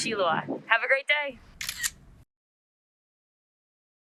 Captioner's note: camera Shutter